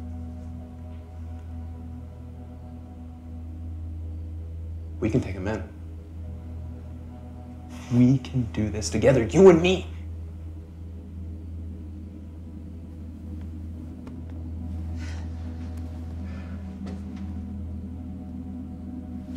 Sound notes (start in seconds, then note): 0.2 crickets chirping; 0.2 tense music; 5.9 tense music; 10.0 crickets chirping; 10.0 tense music; 14.9 Claire sighs; 15.6 crickets chirping; 15.6 tense music